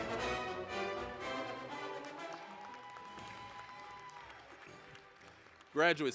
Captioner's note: applause